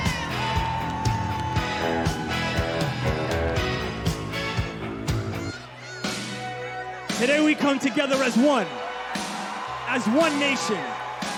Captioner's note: cheers and applause